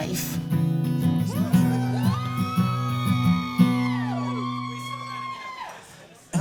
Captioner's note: cheering and guitar playing